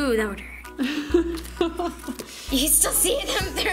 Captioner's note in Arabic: يضحك